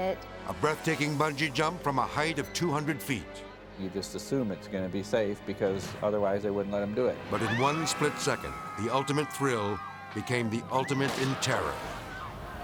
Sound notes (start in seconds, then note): 7.3 people screaming; 9.3 man yelling